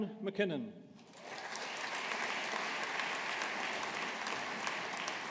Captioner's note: audience applauding